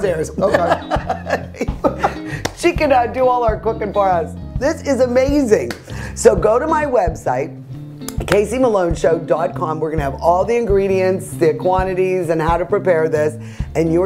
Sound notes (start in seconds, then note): 0.4 laughter